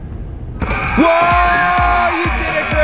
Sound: cheers

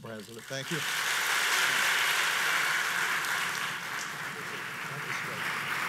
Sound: audience applauds

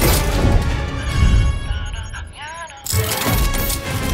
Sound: signal beeping

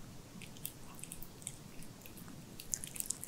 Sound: nom nom nom

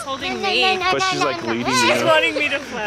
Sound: speaking gibberish

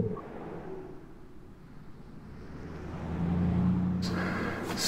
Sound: vehicles whooshing

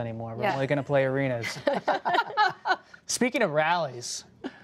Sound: laughter

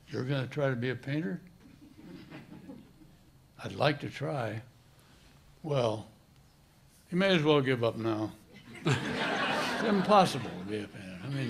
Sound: laughter

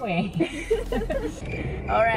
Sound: laughing

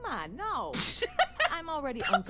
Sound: laughter

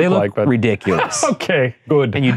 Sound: laughing

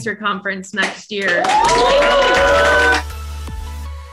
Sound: everyone cheers; upbeat music

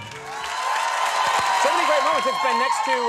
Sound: crowd cheering

